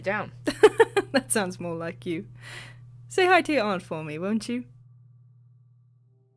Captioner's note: chuckles